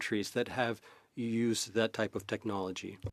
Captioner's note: speaking French